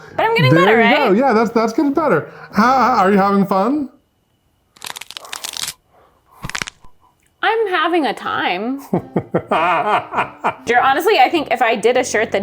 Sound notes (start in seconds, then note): 4.6 bones cracking; 8.9 laughs